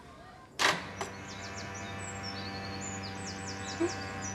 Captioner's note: door motor clicks and buzzes; erin chuckles